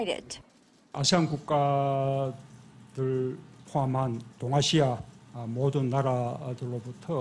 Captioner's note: Korean